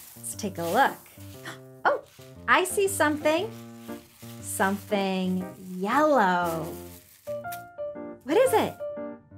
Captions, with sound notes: Let's take a look. (gasps) Oh, I see something. Something yellow. What is it?